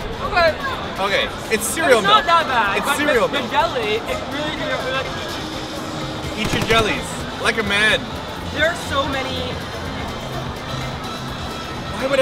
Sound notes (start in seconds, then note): 6.4 sounds of gunfire